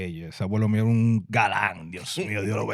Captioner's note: speaking In Foreign Language